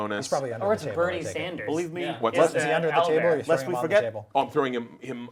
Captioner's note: all chattering